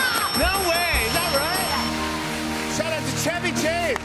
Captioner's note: dinging